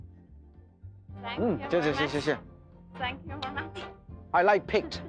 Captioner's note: people speaking foreign language